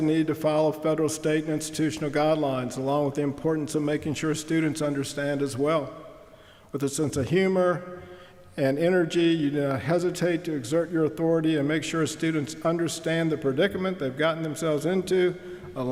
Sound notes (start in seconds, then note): none